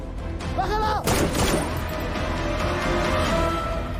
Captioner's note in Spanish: Disparos